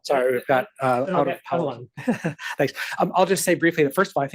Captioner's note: chuckles